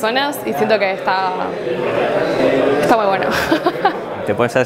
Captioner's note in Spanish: ríe